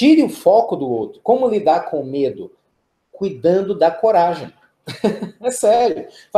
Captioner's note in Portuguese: risos